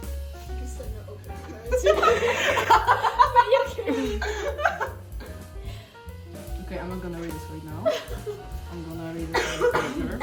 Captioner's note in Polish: śmiech